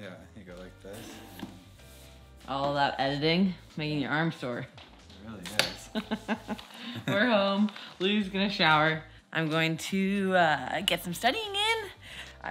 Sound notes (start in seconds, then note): 6.3 laughing